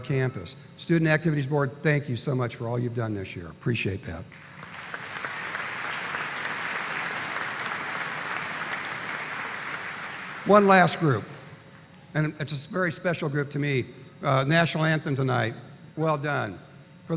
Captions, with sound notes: BOARD. THANK YOU FOR ALL YOU HAVE DONE THIS YEAR. APPRECIATE THAT. (APPLAUSE). ONE LAST GROUP, AND A VERY SPECIAL GROUP TO ME, NATIONAL ANTHEM TONIGHT, WELL DONE.